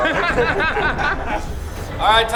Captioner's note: all laughing; tense music